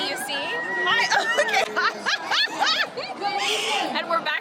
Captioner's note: giggles